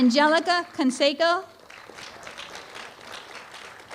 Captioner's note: applause